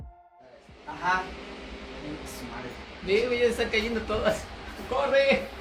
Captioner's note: speaking in foreign language